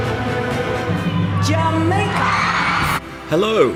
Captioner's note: upbeat music; cheering